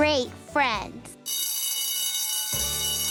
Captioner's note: ringing